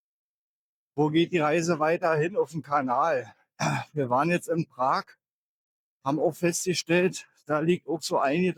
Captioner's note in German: räuspern